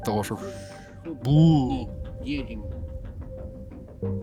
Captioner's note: bang